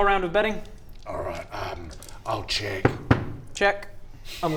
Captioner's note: knock knock